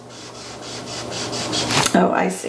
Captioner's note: marker scratching